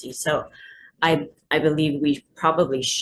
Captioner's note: none